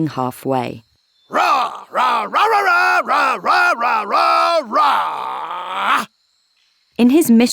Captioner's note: Paul preaching passionately